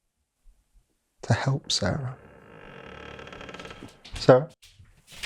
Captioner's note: door creaking